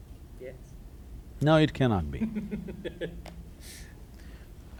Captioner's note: laughs